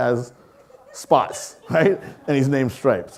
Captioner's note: audience laughing